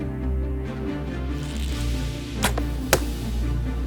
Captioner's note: bowstring tightens